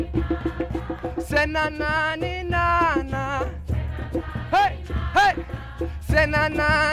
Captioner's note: crowd; crowd